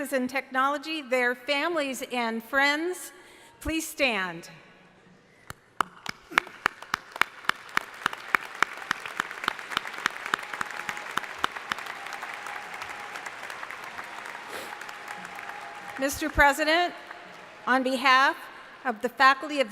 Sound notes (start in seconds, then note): 6.5 crowd applauding